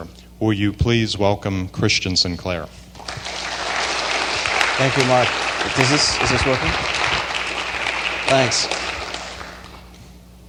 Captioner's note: applause